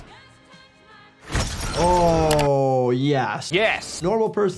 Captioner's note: glass shattering